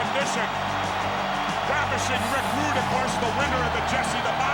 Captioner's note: applause